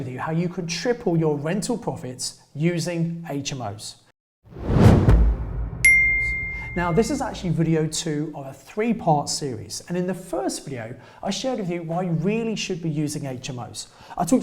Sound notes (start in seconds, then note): 4.5 logo whooshes; 5.8 bell chimes